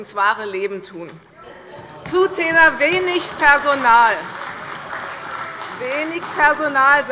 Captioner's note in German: Beifall bei der CDU - Zurufe von der SPD: Oh!